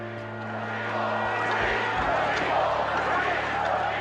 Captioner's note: crowd